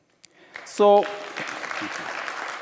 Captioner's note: applause